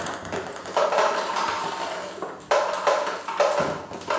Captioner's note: balls ping pong hitting